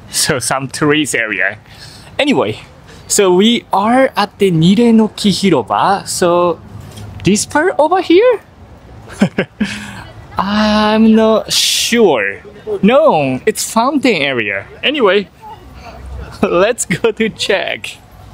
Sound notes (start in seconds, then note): 9.0 chuckles